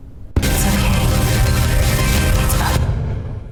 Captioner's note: radio statics